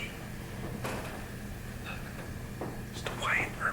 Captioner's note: whispers